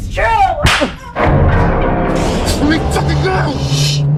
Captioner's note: palm strikes